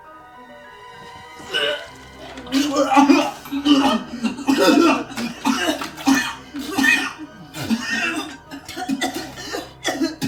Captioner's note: vomiting